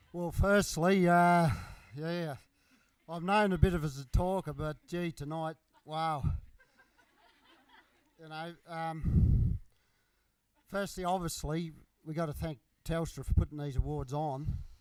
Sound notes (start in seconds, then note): 6.4 laughter